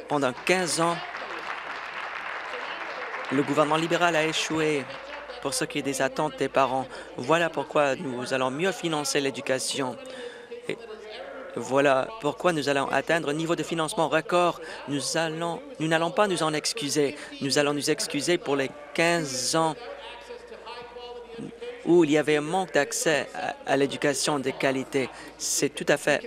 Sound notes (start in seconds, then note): 4.4 applause